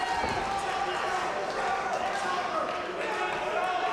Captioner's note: crowd yells